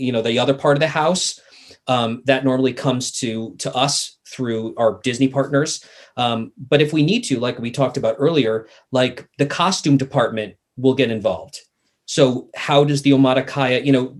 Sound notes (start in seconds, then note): none